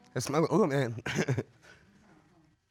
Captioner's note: chuckling